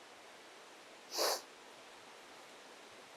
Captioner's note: sniffs